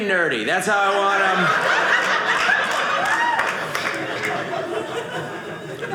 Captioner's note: audience laughing